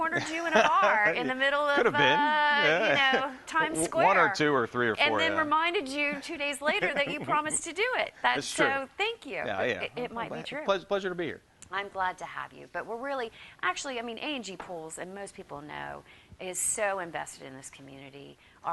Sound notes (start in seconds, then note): 0.1 laughs; 6.6 laughs